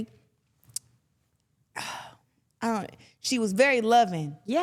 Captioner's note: Claressa sighs